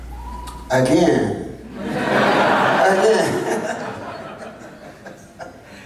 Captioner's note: people laughing